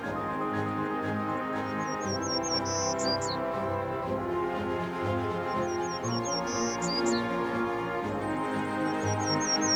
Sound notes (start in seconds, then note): 1.6 bird chirping